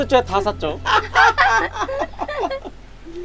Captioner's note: everyone laughing